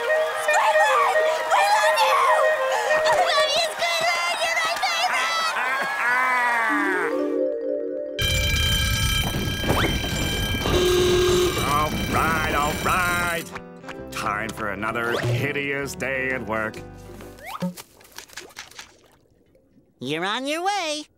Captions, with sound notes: Squidward, we love you! Everybody, it's Squidward! You're my favorite! [Squidward laughing] [alarm ringing] [foghorn blares] All right, all right. Time for another hideous day at work. You're on your way.